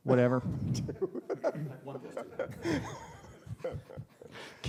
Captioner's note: laughter